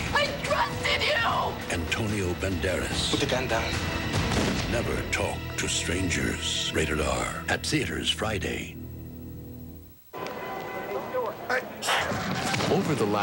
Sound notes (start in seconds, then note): 4.2 gunshot; 10.1 ambient street noise; 11.8 sneezes; 11.9 rumble of toppling buildings